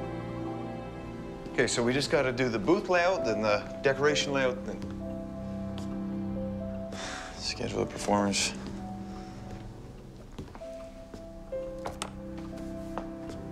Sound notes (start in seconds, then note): 6.9 sighs; 10.9 light music